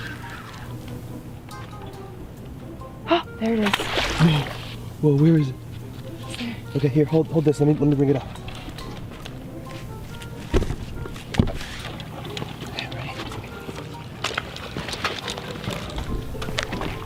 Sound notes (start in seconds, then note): 12.4 whispers